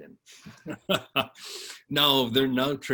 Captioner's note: laughs